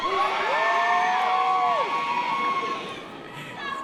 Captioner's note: audience cheers